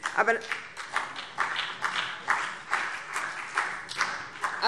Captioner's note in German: Beifall BÜNDNIS 90/DIE GRÜNEN und vereinzelt CDU